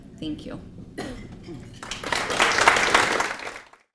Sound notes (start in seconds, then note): 1.7 applause